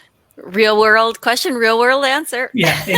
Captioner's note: laughs